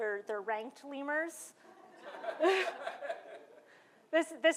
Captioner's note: laughter